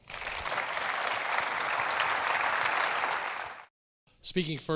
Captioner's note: audience applauding